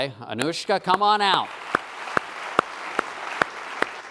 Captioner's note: applause